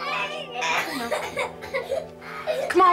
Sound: coughing

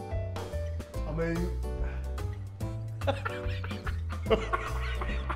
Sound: laughs

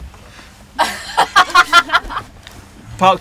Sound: laughter

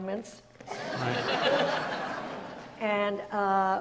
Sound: audience laughs

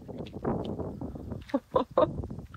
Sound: laughing

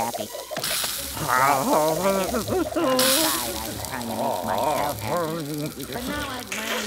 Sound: Squidward moans and groans

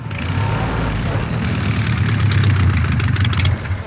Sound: engine powering down

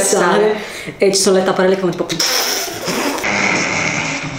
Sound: making nosense noises

